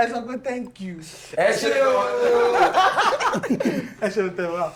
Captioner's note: laughs